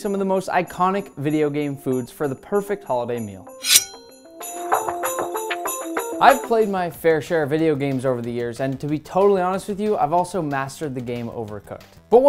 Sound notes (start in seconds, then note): 3.6 knife unsheathing; 4.8 christmas music continues